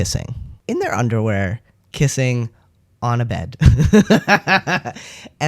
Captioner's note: laughter